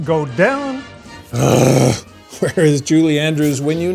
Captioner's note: groans